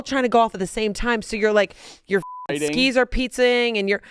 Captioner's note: beep